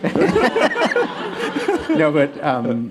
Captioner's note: laughter